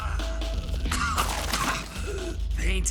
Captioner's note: coughs